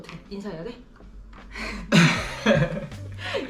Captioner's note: laughing